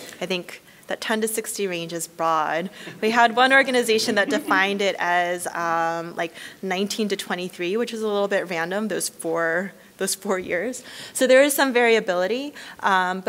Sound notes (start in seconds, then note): 3.9 chuckling